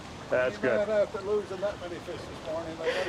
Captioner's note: laughter